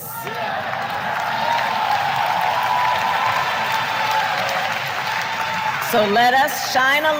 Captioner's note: applause